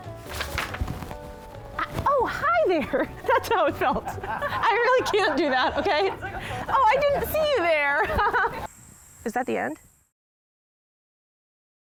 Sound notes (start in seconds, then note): 2.8 all laughing; 8.7 laughing